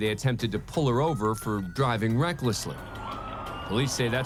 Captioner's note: sirens wailing